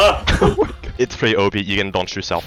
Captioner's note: laugh